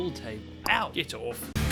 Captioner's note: conk